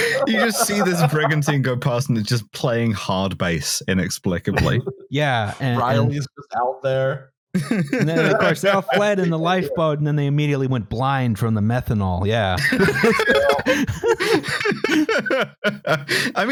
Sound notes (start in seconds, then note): 0.0 laughs; 7.5 laughs; 12.6 laughter